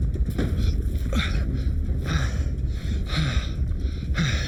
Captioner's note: Adrian panting